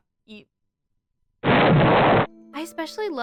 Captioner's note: explosion noises